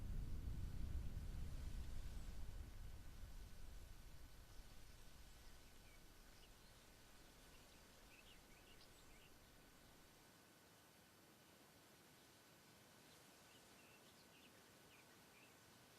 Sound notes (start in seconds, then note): 12.6 birds chirping